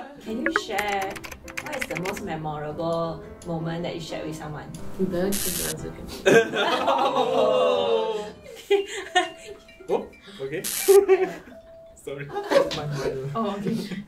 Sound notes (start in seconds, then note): 8.4 watch rings